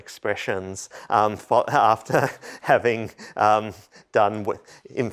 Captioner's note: laughter